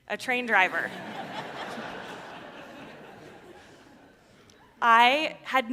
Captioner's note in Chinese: 笑聲